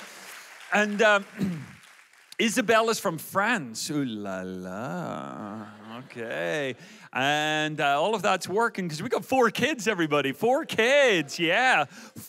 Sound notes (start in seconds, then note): 0.0 audience applauds; 5.3 audience laughs